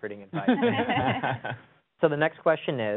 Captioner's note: laughs